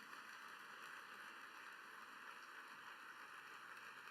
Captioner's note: applause